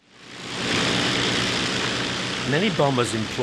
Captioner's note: airplane whirring